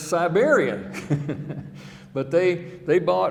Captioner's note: chuckling